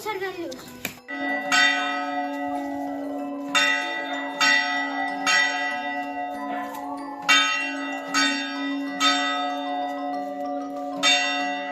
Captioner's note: bells